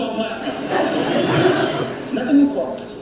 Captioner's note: studio audience laughing